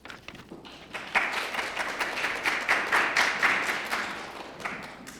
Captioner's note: applause